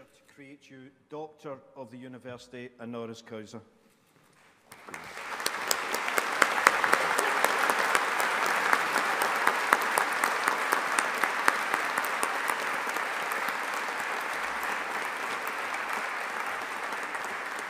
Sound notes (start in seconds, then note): 4.8 audience applauding